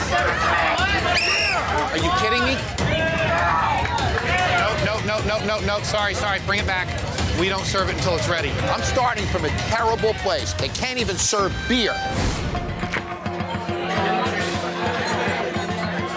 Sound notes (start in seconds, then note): 0.0 patrons yelling orders; 1.1 blows whistle